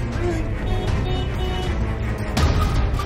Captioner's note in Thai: เสียงแตร